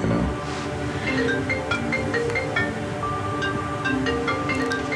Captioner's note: phone ringing